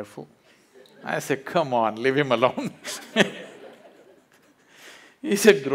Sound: laughs

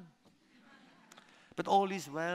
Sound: laughter

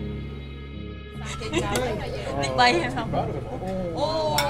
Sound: diners speak in Khmer

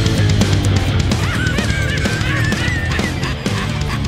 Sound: laughter

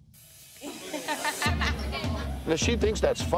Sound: laughs

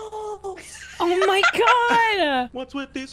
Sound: laughs

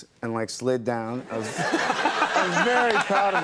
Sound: audience laughs; laughs

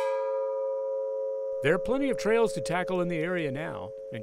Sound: striking the gong

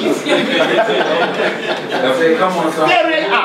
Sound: everyone laughs

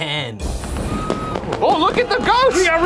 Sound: fireworks exploding

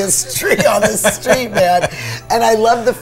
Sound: laughs

